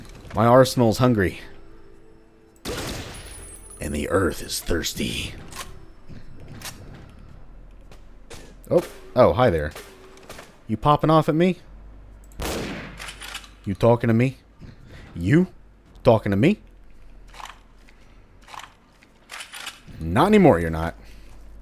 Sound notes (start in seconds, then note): 3.6 postal 1 dude voice; 13.5 robert de niro voice